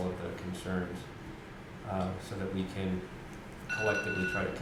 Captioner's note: bell ringing